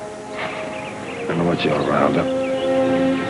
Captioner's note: sighs; gentle music